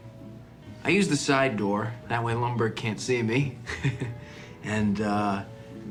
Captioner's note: laughs